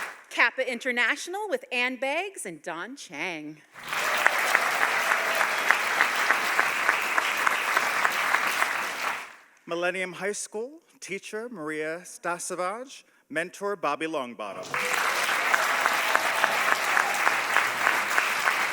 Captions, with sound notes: - KAPPA International with Anne Beggss and Dawn Chiang. (audience applauding) - Millennium High School, teacher Maria Stasavage, mentor Bobby Longbottom. (audience applauding)